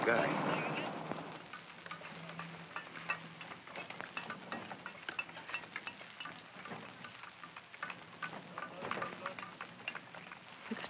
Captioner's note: sounds of tools chipping